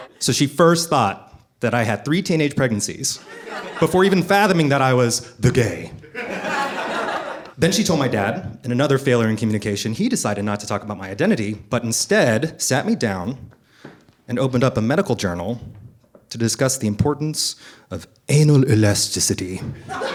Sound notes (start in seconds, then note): 0.0 audience laughing; 6.0 audience laughing